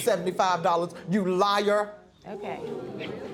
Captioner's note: audience murmurs